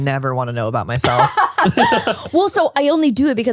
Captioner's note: laughs